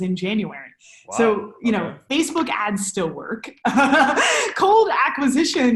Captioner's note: laughs